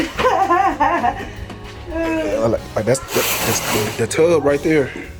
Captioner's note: laughing